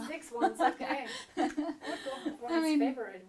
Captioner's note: laughs